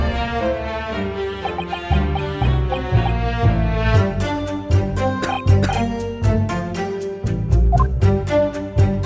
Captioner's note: cough, cough